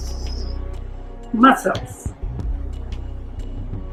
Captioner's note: tongs click